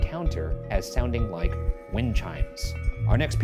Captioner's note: wind chimes ding